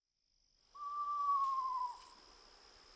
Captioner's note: eastern screech owl whinny and katydid calls